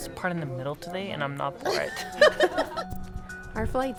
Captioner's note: laughs